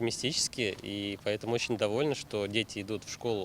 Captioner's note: speaking Russian